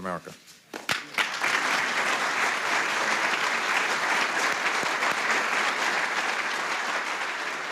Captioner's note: clapping